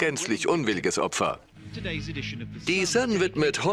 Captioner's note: voiceover